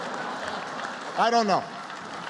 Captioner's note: applause